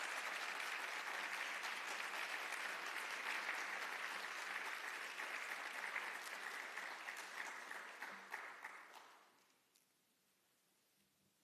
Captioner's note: applause